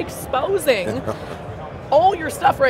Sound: laughs

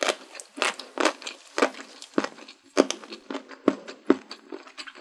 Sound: bone sounds can be heard in stereo

